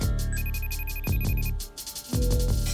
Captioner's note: phone ringing